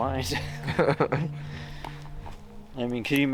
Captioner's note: both laugh